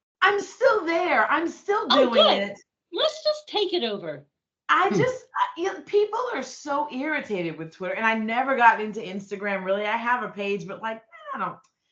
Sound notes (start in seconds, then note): 4.9 chuckling